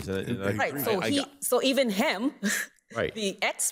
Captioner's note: chuckles